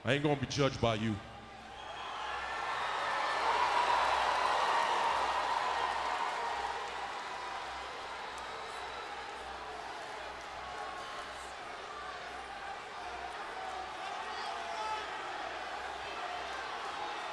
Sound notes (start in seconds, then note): 1.3 crowd cheering; 10.5 crowd chanting